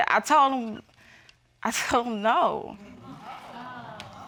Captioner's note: chuckles; audience exclaiming